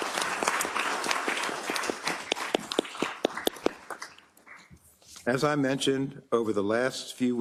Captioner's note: applause